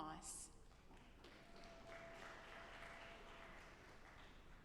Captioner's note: audience applauding